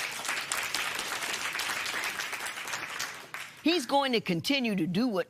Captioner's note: applause